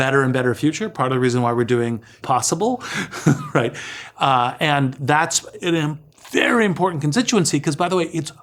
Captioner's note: laugh